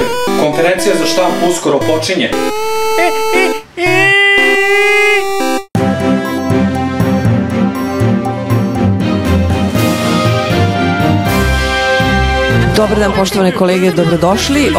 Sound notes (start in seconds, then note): 3.8 screams; 4.4 news intro; 12.8 arguing in the background